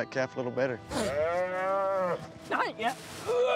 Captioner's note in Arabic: خرير العجل; تذمر